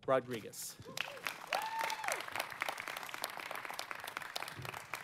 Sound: audience applauding

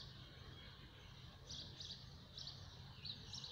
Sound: birds are still tweeting

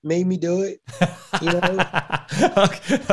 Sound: laughing

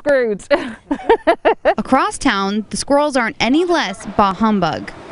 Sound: laughs

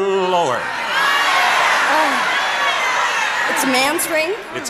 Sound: audience shouting

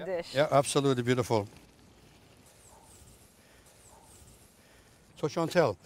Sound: bird's chirping

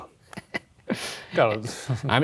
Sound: laughs

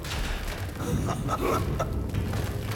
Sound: laughs

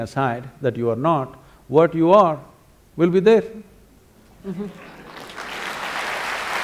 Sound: applause

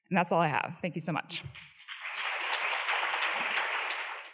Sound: applause

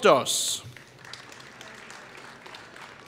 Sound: applause

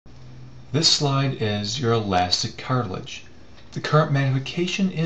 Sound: voiceover

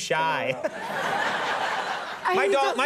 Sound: audience laughing

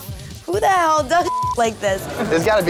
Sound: beep

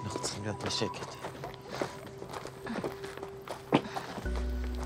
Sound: gravel crunching

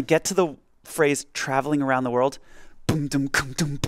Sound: mimics drums

